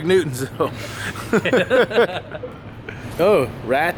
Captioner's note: men laughing